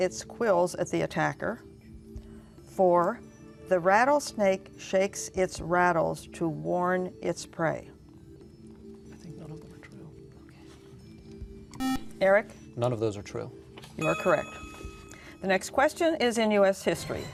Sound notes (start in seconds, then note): 8.5 whispering